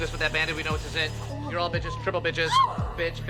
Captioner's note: girls gasp